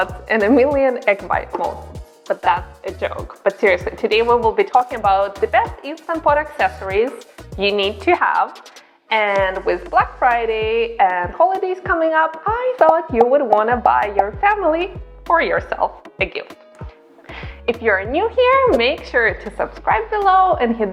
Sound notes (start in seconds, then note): 13.1 popping